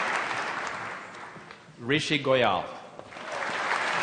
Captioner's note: applause; applause